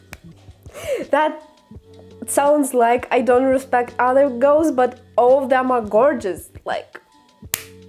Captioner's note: sigh